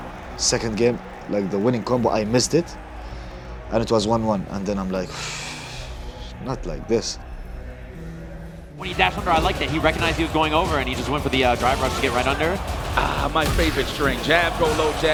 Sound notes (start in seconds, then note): 5.1 sighs